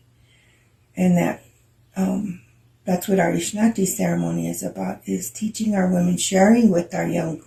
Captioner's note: speaking in Lakota